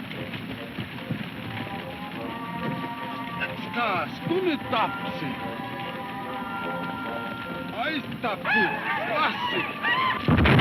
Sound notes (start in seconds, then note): 3.6 man speaks in foreign language; 9.2 men shouting